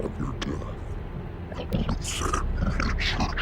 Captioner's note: distorted voice grumbles